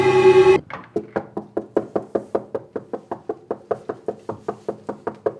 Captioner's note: knocking